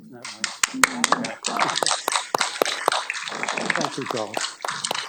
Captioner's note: audience applauding